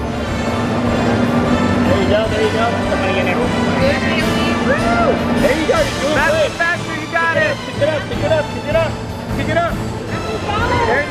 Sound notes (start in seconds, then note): 0.1 fun, epic music; 2.8 people cheering Bailey on